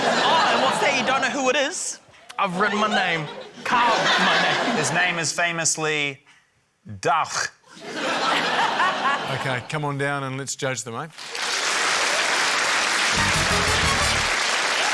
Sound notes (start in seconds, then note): 6.8 german accent; 7.7 laughter; 11.2 cheering, applause